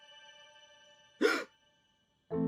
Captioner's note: fan gasps